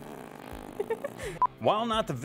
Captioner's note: laughs